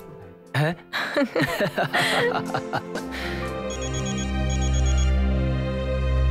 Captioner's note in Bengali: সশব্দ হাসি